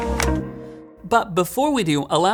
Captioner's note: click sound